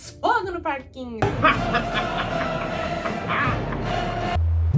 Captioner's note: fatal laughter